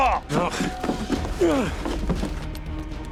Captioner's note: groaning